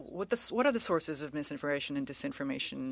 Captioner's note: speaking French